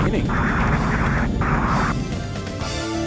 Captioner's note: radio statics